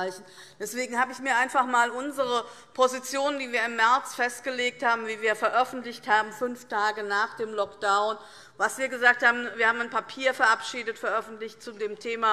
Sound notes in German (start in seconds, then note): none